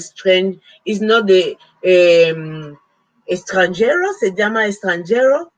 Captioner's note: speaking Spanish